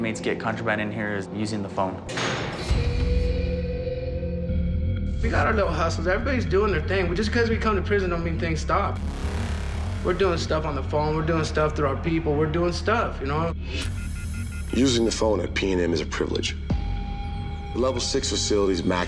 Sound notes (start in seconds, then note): 2.1 door slams; 13.8 phone beeping